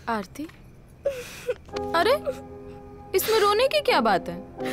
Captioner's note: Sobbing